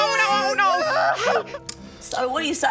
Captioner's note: wails